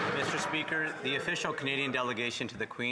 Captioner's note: applause